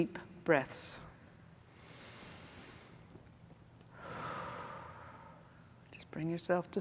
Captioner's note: exhales; inhales